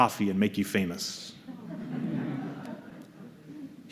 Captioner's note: laughter